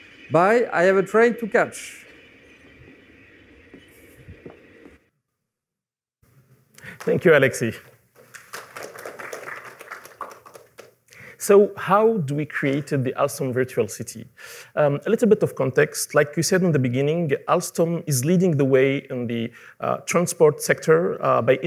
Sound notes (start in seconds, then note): 8.2 applause